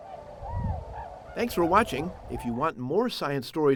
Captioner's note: birds chirping